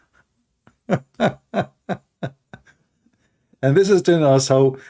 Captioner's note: Ketawa